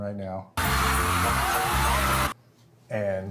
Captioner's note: crowd cheering